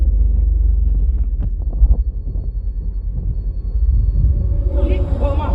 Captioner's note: rumbling sounds